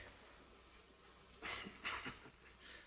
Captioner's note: chuckles